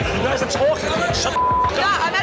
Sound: beep

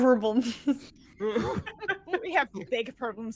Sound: all laughing

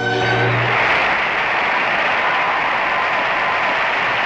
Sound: crowd Cheering

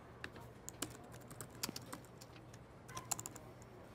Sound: typing

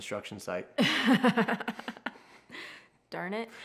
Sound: laughing

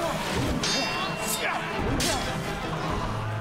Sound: metal clanging

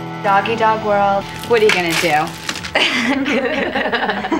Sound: laughs

